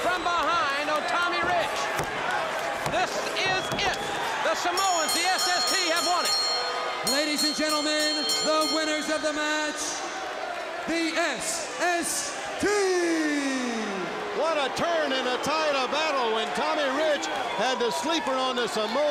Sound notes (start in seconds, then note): 13.9 crowd cheering